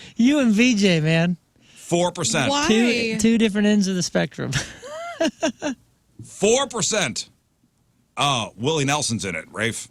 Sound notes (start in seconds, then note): 4.6 laughing